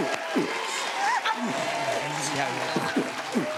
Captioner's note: both beat-boxing; cheers and applause